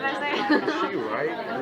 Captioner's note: laughs